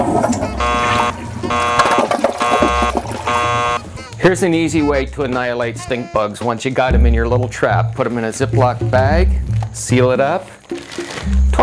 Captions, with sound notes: (beep, beep, beep, beep) here's an easy way to annihilate stinkbugs. Once you got 'em in your little trap, put 'em in a Ziploc bag, seal it up,